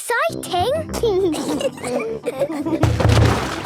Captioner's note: giggling